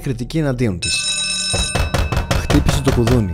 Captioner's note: doorbell; knock on door